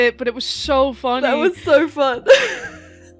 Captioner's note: laughing